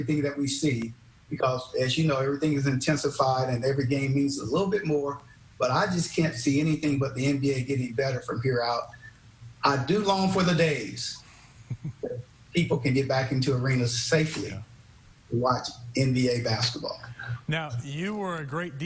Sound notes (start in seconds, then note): 14.1 chuckles